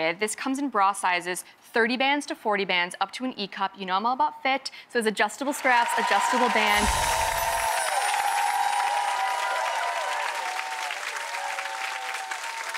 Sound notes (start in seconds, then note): 6.8 twinkling music; 7.9 audience cheering